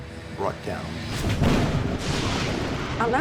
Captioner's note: thunder crashing